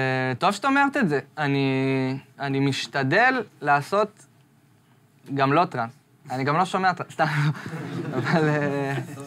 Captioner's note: laughs